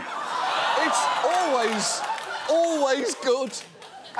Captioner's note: audience laughing